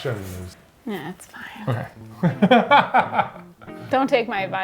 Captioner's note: laughs